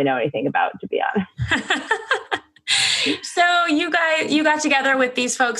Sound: laughs

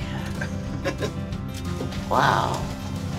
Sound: laughs

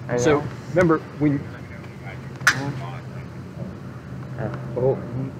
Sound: speaking over the radio

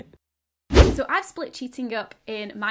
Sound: air whooshing

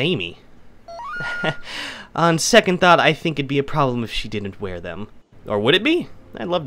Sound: laughs, blushing

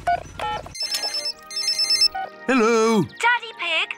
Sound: phone rings

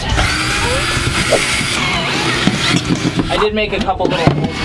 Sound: drilling

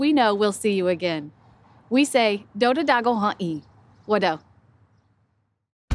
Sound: speaks Cherokee language

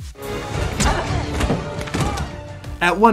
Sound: furniture clattering

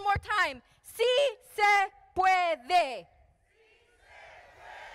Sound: speaking in foreign language; crowd speaking in foreign language

